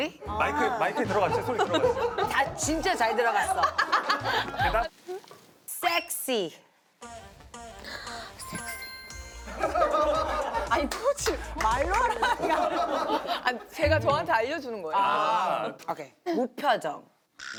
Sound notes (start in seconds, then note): 3.7 cracking up